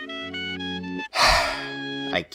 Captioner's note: sigh